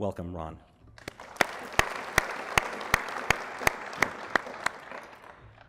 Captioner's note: applause